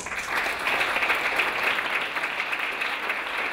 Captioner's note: clapping